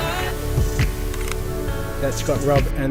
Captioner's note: camera clicks